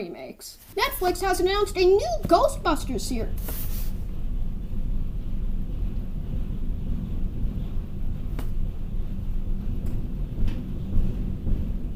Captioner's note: rumble rumble bumble tumble